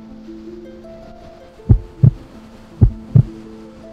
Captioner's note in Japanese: 心臓の音